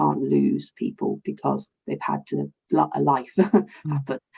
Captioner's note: chuckles